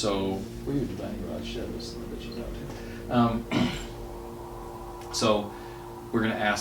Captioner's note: faintly speaking